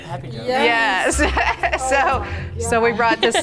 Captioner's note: laughs